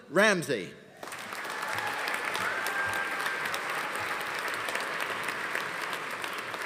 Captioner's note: audience applauding; audience cheering